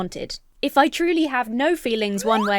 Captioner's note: slide whistle blows